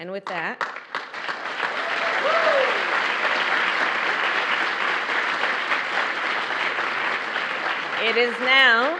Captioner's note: applause